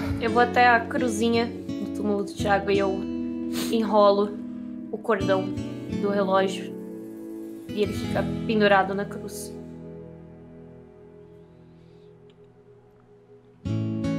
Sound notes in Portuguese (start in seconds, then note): none